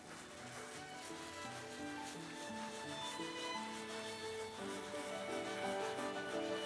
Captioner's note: gentle music; paper scraping